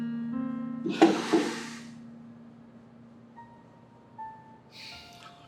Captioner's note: Michael sighing